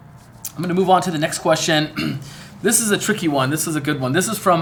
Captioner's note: cough